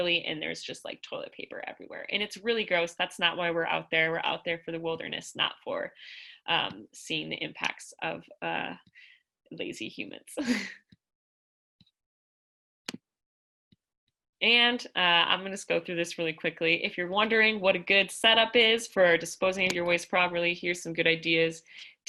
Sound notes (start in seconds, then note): 13.4 laughter